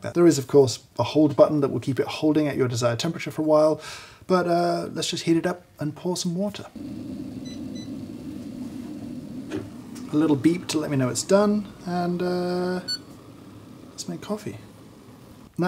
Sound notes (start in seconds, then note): 6.8 kettle beeps